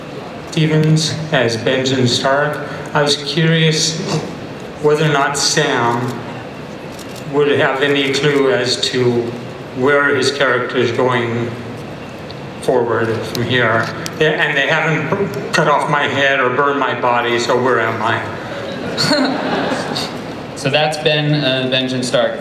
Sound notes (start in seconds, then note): 0.4 voiceover; 18.5 laughter